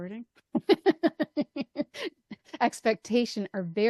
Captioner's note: laughs